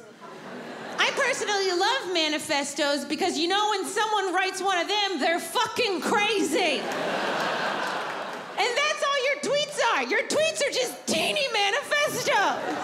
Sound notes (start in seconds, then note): 6.6 audience laughs